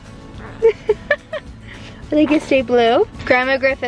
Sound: laughs

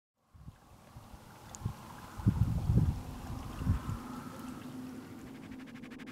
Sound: wind whistling lightly

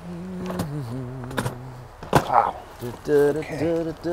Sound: humming

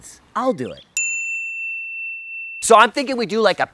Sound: bell dinging

